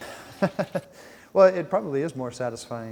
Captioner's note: chuckles